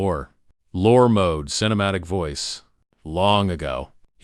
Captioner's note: lore mode – cinematic voice